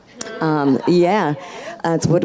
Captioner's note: audience laughs